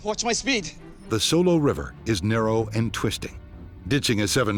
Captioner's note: voiceover